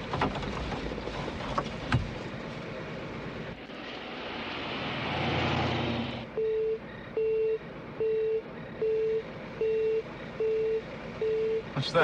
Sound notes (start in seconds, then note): 3.0 car revs; 6.9 mysterious beeping